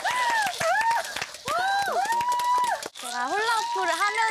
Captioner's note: cheering